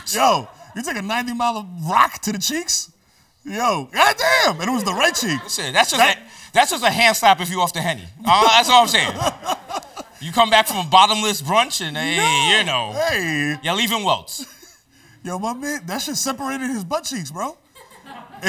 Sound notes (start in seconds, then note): 8.2 laughs